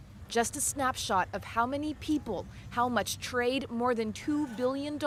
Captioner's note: speaking spanish